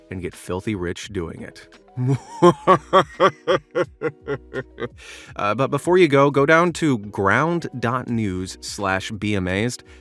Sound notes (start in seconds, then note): 2.0 maniacal laughter; 3.8 maniacal laughter fading off into the distance